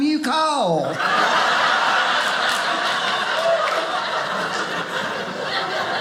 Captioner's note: audience laughing